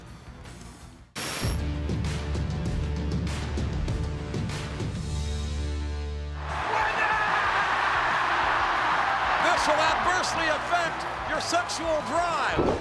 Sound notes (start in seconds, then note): 1.6 upbeat music; 6.3 crowd cheering